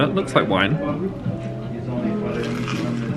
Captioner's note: indistinct background chatter; relaxing piano music